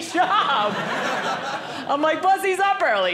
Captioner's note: audience laughing